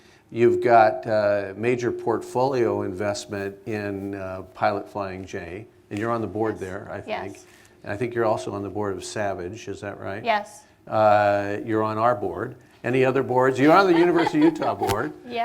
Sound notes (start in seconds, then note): 13.5 laughs